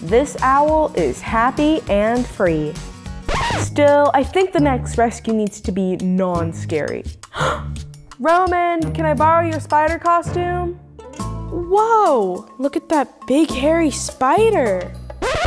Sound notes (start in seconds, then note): 7.3 gasping